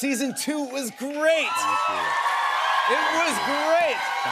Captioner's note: cheers and applause